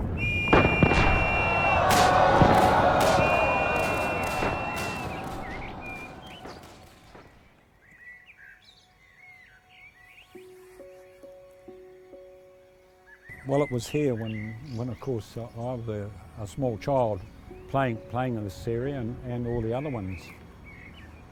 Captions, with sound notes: [whistle and sounds of war] [bird song] Well, it was here when I was a small child playing in this area, and all the other ones.